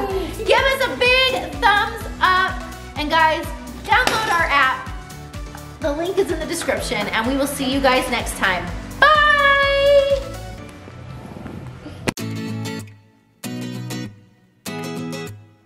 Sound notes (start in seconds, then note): 0.0 laughs; 3.9 stroller thumps; 12.1 upbeat guitar music